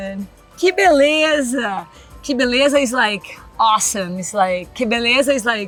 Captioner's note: speaks Portuguese